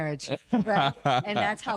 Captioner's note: laughing